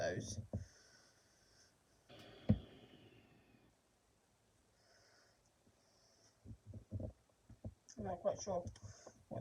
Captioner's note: breathing